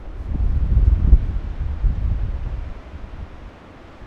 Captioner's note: wind humming